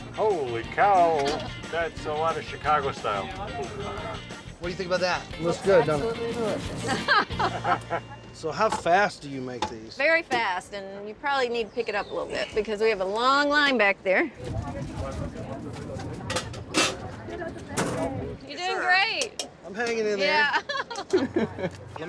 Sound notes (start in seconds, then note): 6.7 chuckling; 14.6 people chattering